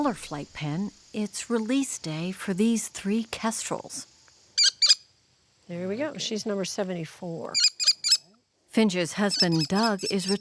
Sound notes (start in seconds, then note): 4.6 bird squawking; 9.2 bird squawking